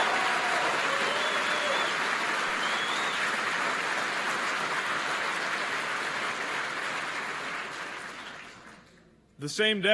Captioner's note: applause